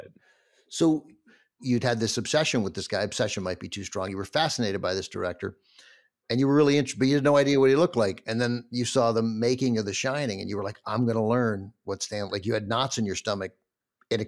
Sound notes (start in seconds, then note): none